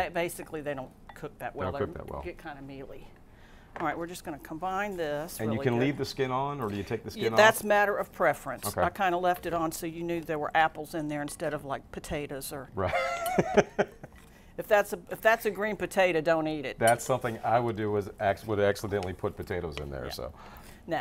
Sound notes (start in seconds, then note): 12.8 laughing